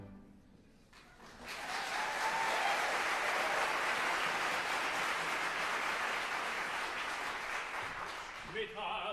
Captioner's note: applause